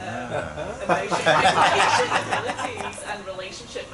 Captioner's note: laughter